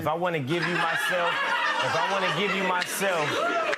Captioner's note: audience laughter